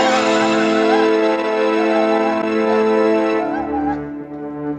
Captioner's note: electrocuting